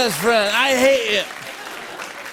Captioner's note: laughter and applause